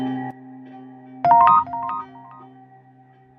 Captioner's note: text sound; dark music